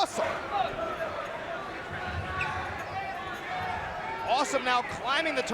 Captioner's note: crowd chattering